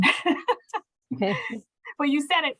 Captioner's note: laughing